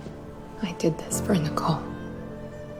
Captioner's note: voiceover